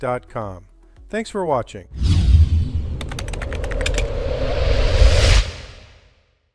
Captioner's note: whooshing; keyboard clicking; whooshing